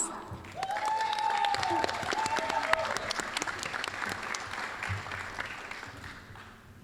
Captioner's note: applause